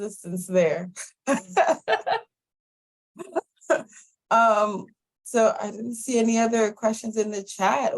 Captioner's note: laughter